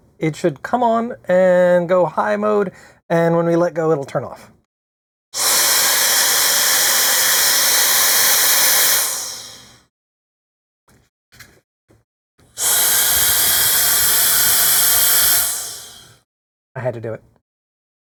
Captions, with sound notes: it should come on and go high mode. And when we let go, it'll turn off. (Blower whirring A LOT ) (Blower whirring. Face Flapping.) I had to do it.